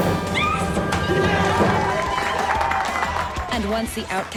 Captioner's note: cheering; applause